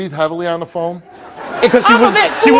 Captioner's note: audience laughs